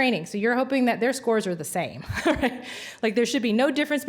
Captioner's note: laughs